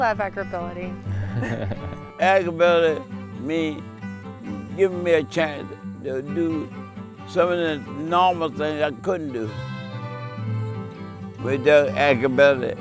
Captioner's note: laughing